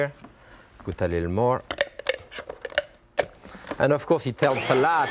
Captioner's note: lid clattering